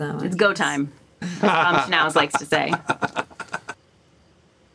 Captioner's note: laughs